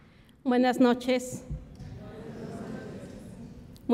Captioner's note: speaks Spanish; audience murmurs; speaks Spanish